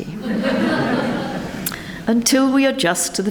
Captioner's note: members laugh